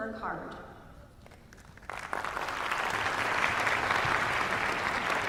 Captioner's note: applause